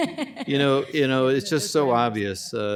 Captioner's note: laughter